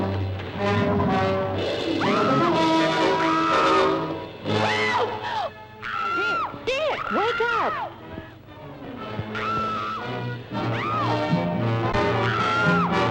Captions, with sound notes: (Pat screaming) - Ralph! - Dick! (Pat screams) Dick, wake up! (Pat screaming) (dramatic music)